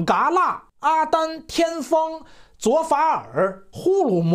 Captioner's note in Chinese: 阿拉伯